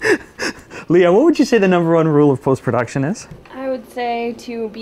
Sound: laughing

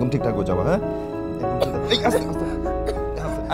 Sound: coughing

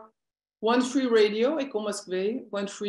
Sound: non-english speech

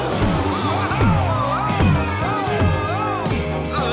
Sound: screaming

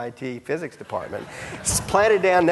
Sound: audience laughing

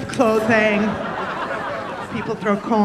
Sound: audience laughing

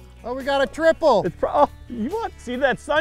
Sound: voiceover

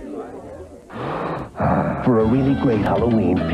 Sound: big exhale

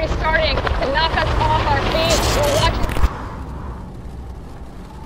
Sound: distorted voice

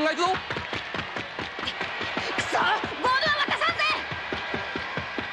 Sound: applause

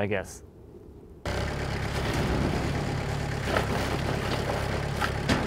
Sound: machine rumbling

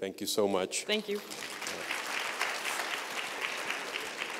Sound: applause

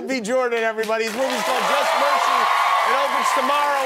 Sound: cheers, applause

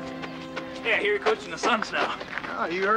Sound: laughs

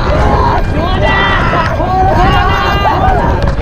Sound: cheering with one heart

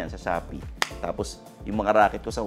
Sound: claps

